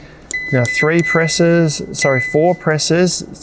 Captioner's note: fridge beeps